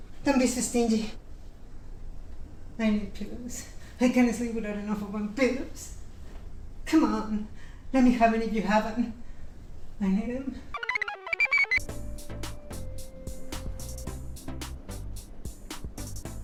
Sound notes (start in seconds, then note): 10.7 computer chirps; 10.8 blissful music